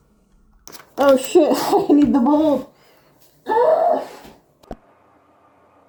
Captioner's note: shrieks like a baboon